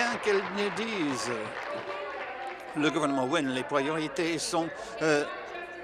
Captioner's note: applause